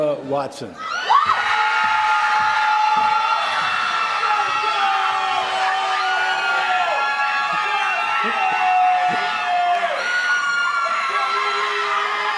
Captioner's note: applause